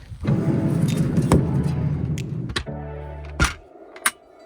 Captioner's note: door scrapes